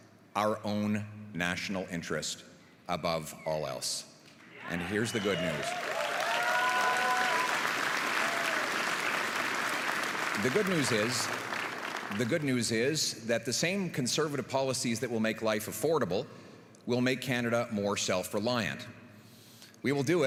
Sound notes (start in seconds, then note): 11.1 applause